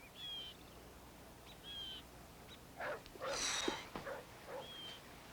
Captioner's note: sallie exhales